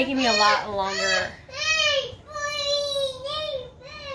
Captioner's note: kids start screaming in the distance